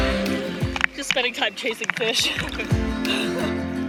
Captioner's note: laughs